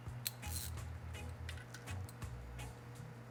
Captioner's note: clicking